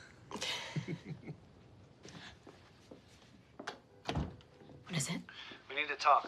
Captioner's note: both chuckle